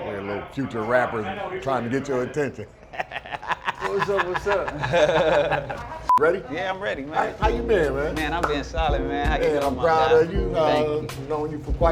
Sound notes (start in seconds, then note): 2.8 laughs